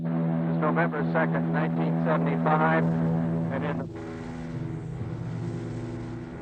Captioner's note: plane roaring